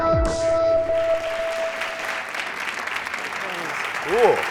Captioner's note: applause